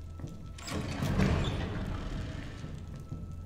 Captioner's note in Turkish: Kapı Sesi